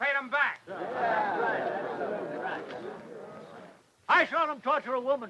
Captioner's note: townsfolk murmur